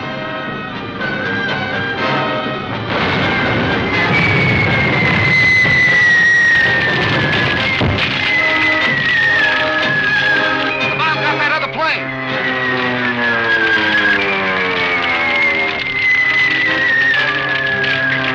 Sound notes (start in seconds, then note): 0.1 dramatic music; 2.9 guns banging; 14.3 plane crashing